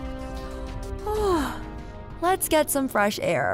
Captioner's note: yawn